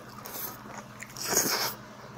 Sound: slurp

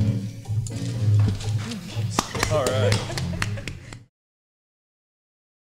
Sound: upbeat music; member clapping

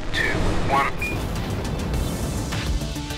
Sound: spacecraft thudding; bright music

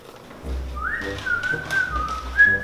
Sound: whistling

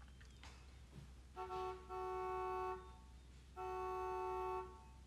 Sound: car horn honking

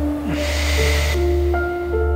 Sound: sighs

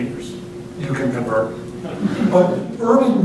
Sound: laughter

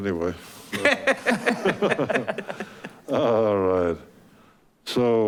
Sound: board laughing

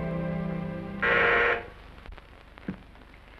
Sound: buzzer

